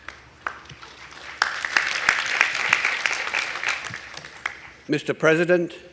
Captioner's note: audience applauding